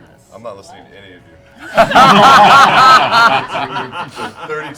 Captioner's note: laughter